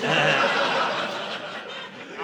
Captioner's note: audience laughing